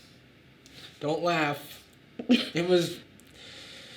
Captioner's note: Sadie chuckles